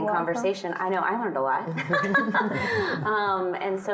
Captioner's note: laughing